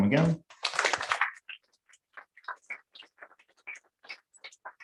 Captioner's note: applause